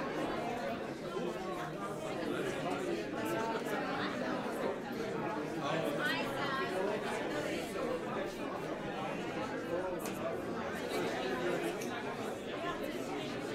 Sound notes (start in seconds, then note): 0.8 overlapping chattering